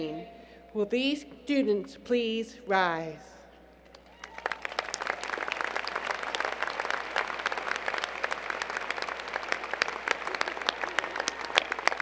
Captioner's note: applause